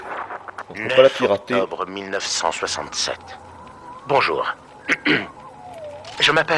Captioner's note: clears throat